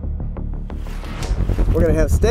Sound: whoosh

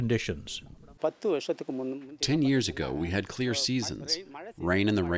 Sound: through translator

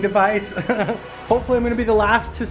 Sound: laughs

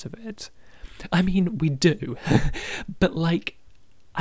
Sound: laughs

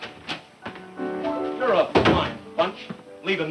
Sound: door opens

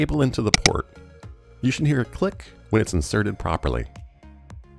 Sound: click

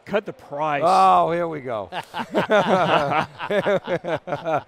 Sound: all laughing

